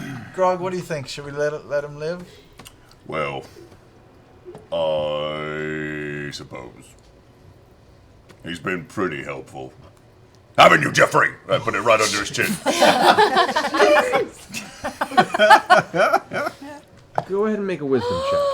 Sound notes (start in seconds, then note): 0.0 whispering loudly; 7.7 yelling; 12.4 laughter